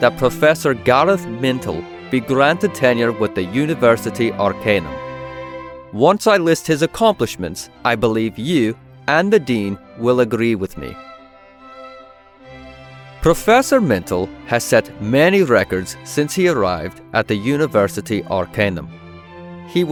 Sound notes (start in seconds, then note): none